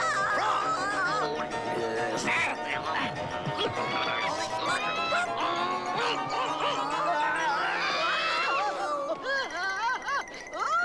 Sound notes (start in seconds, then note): 1.6 struggling; 4.1 screeching